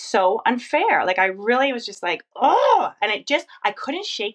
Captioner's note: groans